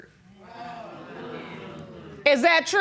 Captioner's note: audience murmuring